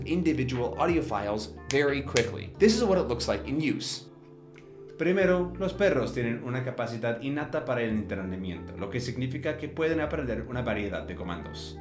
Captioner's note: audio in Spanish